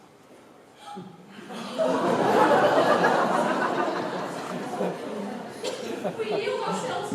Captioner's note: laughter; gasps of relief